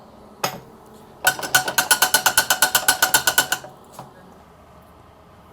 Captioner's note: metal clacking